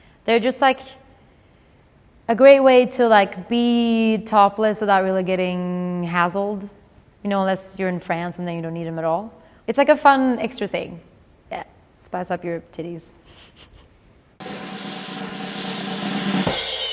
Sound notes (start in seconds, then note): 13.3 laughs; 14.4 drumroll